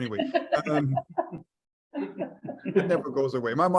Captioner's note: members laugh